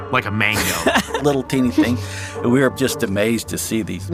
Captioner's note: laughs